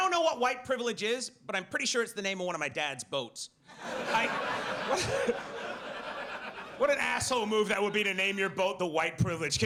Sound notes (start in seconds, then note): 3.7 audience laughs